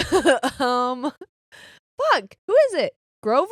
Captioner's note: laughing